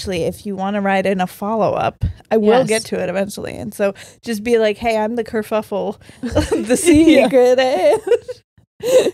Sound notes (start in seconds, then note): 6.3 all laughing